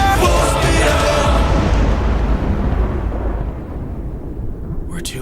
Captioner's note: thunder crack